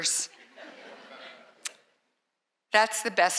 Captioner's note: laughter